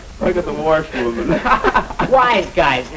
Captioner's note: laughing